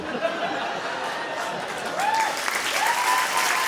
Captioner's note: audience applause